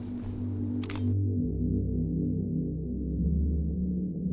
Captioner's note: shutter clicks